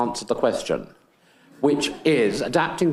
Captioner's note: attendees laughing